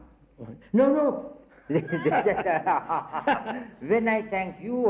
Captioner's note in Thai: หัวเราะ